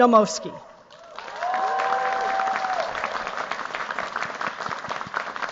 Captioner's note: cheers, applause